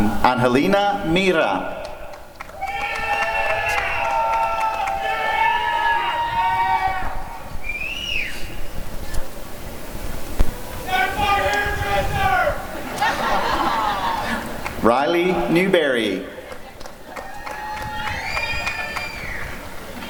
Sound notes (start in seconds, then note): 3.7 applause and cheering; 12.7 laughter; 18.1 applause and cheering